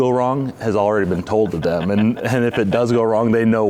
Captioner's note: laughing